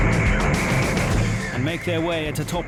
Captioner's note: boat engine roaring